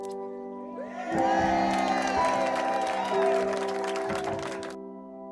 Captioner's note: people cheering and applauding